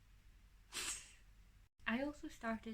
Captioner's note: laughs